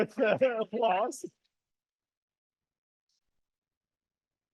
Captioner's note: audience applauding